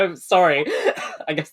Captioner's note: laughs